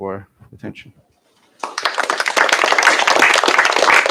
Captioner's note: applause